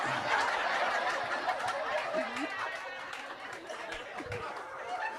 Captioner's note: audience laughing